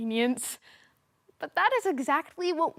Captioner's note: soft breathing